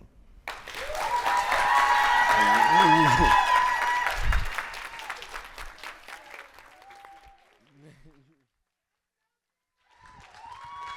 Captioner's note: clapping